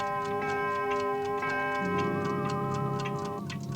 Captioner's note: clocks continue ticking; clock continues tolling; eerie music